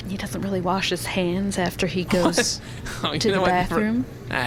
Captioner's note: laughing